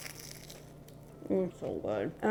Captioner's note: rugelach crackles